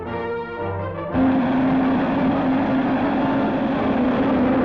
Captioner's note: rocket lift off sounds